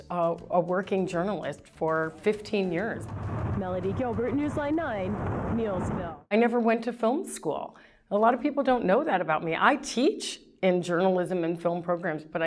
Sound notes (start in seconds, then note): 2.3 wind blowing